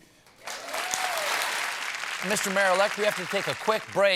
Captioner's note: applause